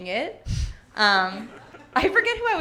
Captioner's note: audience laughing